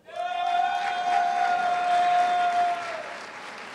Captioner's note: cheers and applause